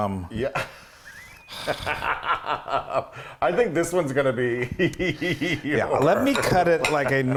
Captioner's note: laugh